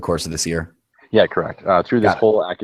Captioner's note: voiceover